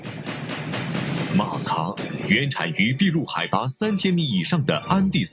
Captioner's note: foreign language